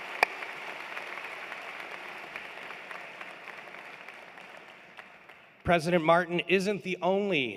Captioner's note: applause